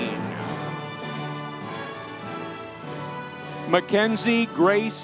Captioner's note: audience cheering